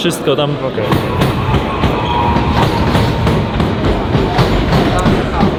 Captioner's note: train wheels clattering